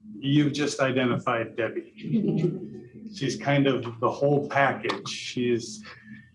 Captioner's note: laughter